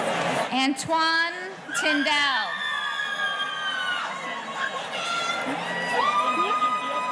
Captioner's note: audience cheering; faculty member murmurs